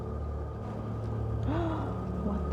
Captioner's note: gasp